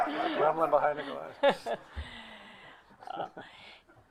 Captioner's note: group laughs